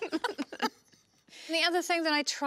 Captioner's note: laugh